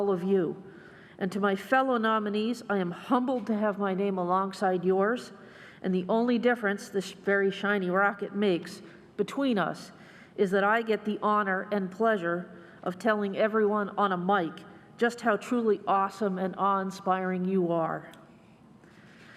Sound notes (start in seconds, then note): none